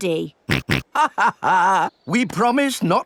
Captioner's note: snorts; chuckles